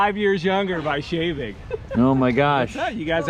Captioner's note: laughs